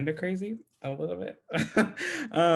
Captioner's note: laughs